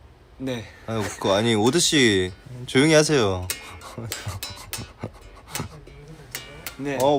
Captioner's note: laughs